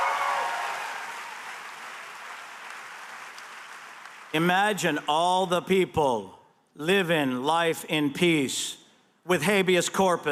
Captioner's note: cheers and applause